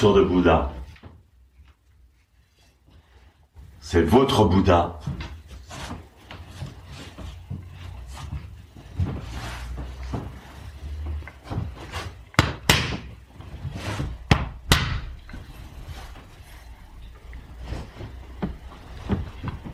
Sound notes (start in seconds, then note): 14.2 kyosaku blows